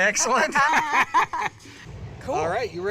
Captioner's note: laughter